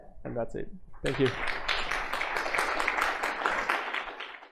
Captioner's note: applause